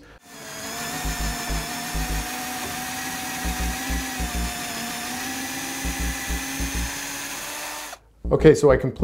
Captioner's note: drill Sound